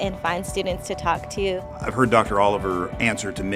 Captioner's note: voiceover